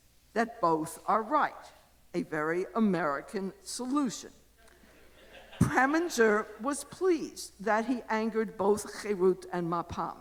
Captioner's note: audience laughter